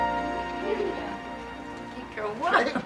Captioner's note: group chattering